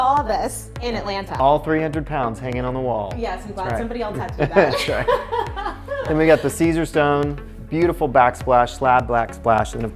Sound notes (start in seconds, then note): 4.3 laugh